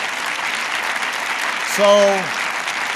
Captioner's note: applause